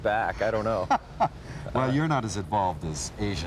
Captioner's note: laughs